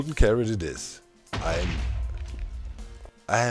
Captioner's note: explosion